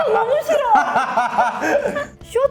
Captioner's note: hahaha